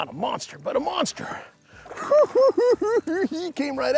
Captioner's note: giggles